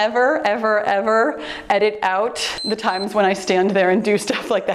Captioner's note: timer beeps